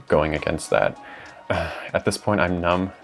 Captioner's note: sigh